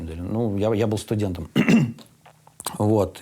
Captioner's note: clears throat